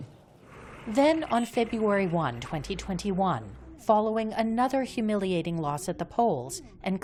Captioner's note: voice-over